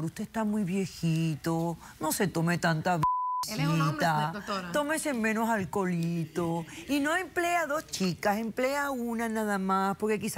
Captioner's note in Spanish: Bip